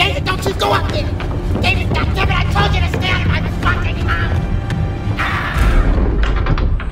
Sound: screams

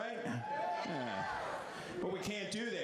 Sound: all cheer

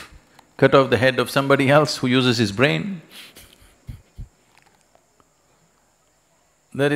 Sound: laughs

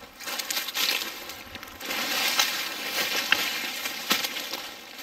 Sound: leaves rustling loudly

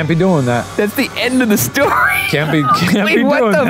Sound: laughs

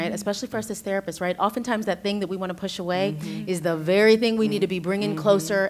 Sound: others agreeing

